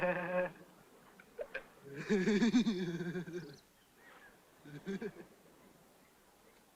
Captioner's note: laugh